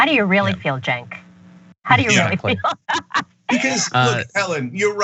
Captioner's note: laugh